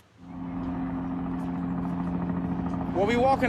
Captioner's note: helicopter's blades whirring